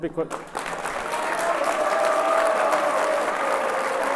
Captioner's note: audience applauds